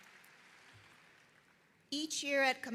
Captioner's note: applause